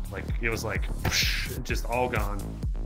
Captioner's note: whooshing